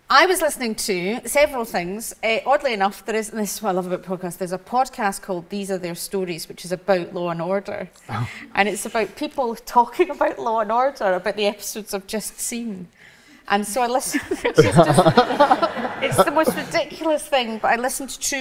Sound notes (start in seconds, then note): 14.2 audience laughs